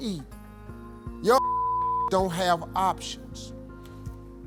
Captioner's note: beep